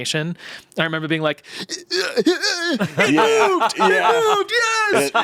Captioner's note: groaning